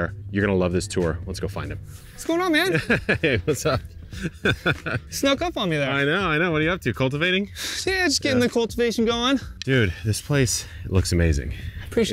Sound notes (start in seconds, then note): 4.1 laughing; 4.1 laughs